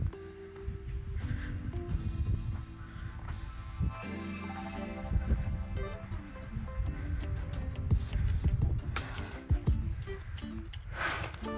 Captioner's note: wind blowing